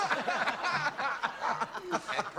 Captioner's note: laughter